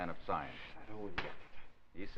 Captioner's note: slapping sound